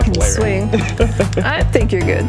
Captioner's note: laughs